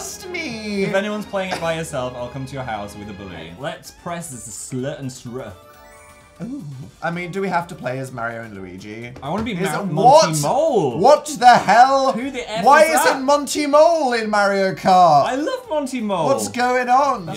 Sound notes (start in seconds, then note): 5.6 sparkle noise; 13.4 yelling